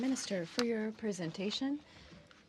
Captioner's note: speaking in french